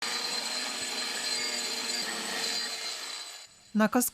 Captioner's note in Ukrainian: Звук шліфомашини